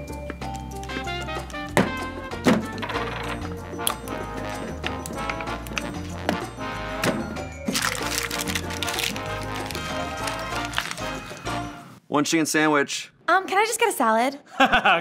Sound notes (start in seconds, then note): 0.2 mayo squelching; 0.2 whimsical music; 7.7 paper rattling; 8.0 whimsical music